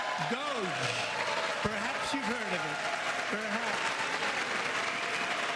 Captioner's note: applause